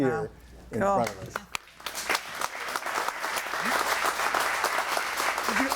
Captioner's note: audience applauding